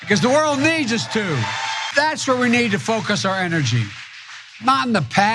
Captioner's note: applause